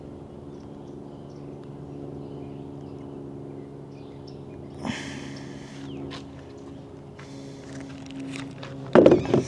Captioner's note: birds chirping